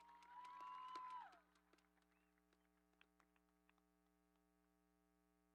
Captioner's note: audience cheering